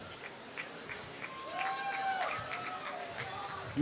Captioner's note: applause